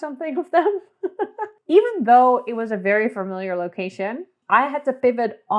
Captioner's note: laughs